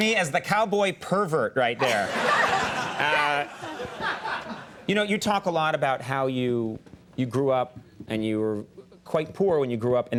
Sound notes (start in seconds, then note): 1.8 audience laughing